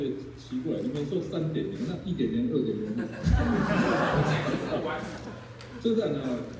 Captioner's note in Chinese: 現場笑聲